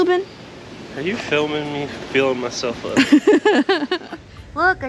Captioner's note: laughter